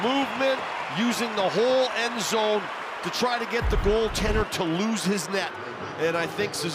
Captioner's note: cheering